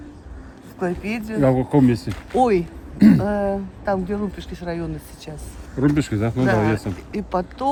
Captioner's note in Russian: откашливается